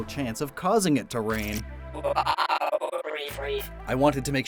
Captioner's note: Regireef cry